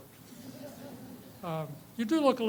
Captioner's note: audience laughs